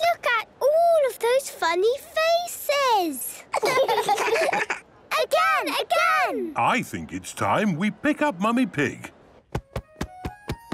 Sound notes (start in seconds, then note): 3.4 children laughing